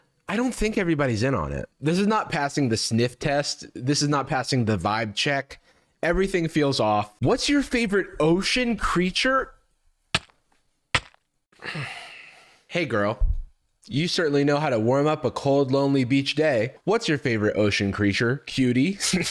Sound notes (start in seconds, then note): 9.9 minecraft damage sound; 11.6 sighs; 19.0 laughs